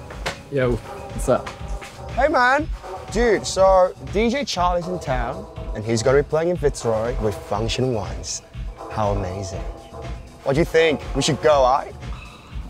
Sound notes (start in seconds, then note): none